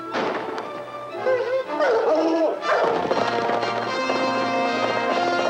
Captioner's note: dogs barking; tense music